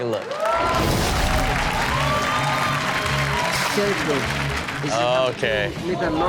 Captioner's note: audience cheer and applaud